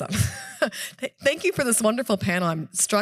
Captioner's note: chuckles